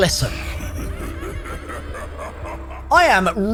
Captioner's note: evil laugh